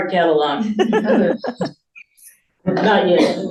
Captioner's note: chuckles